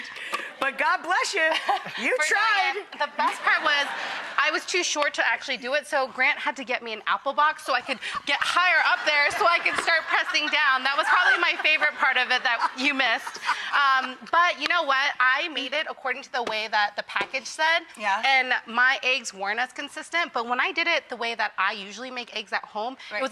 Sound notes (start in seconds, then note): 2.7 audience laughing